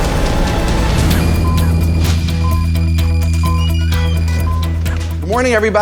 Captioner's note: timer beeping